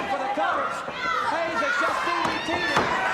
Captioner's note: audience cheers